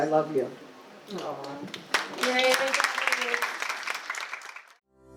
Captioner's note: audience applause